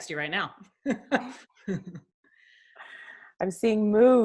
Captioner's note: laughs